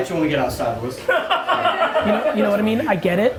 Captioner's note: laughing